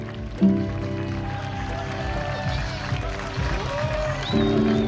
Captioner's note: claps and cheers